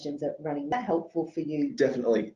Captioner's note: audio distorts